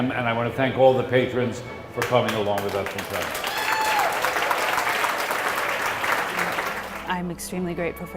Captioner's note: applause, cheers